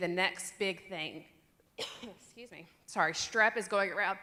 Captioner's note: cough